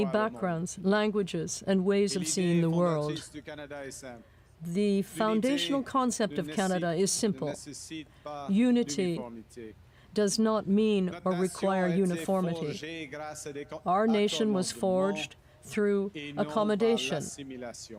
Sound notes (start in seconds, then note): 3.5 speaking French